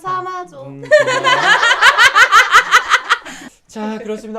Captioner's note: laughing